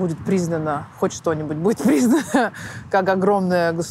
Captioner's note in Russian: смеясь